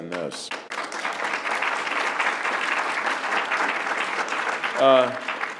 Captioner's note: applause